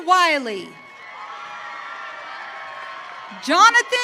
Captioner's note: audience cheering